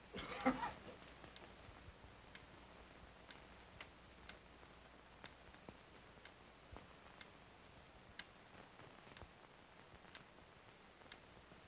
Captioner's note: clock ticks softly